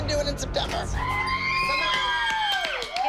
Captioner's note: girls cheering